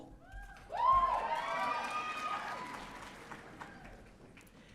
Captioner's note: audience cheering